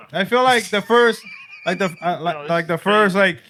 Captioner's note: laughter